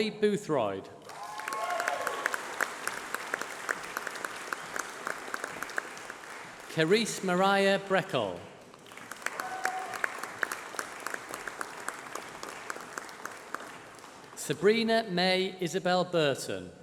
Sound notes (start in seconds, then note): 1.0 applause